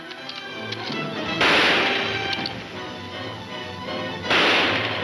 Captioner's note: gunshots banging